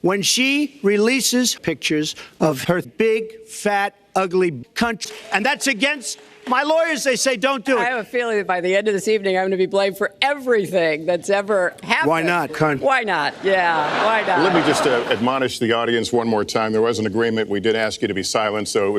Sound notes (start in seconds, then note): 13.2 audience laughs